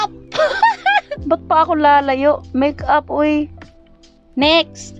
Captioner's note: laughing